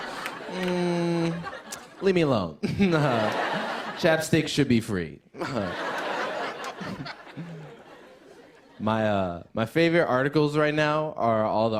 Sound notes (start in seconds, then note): 0.0 laughter; 0.0 laughs; 5.4 laughter